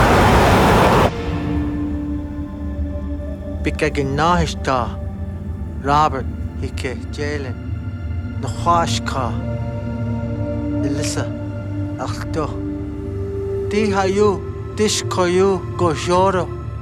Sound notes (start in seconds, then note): 1.5 somber music; 3.9 speaking foreign language; 8.6 speaking foreign language